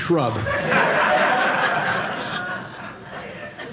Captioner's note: audience laughing